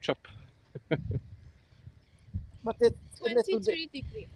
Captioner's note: laughter